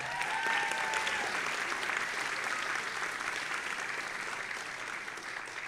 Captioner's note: audience applauding and cheering